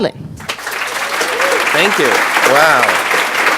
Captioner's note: audience applauds